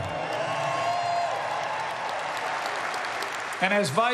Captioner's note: applause